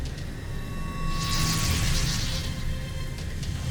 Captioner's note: enchanting chimes, sparkling whoosh; dark magic whoosh-crackle